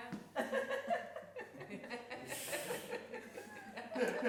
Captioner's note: laughing